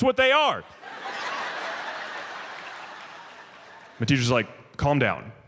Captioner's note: audience laughs